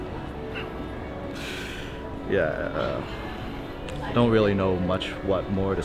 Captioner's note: chuckles